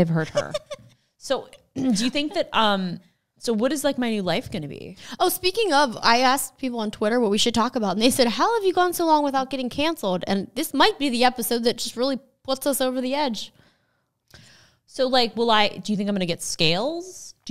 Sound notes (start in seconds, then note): 0.3 laughing